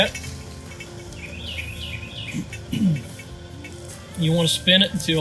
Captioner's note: bird chirping